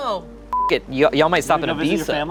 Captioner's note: beep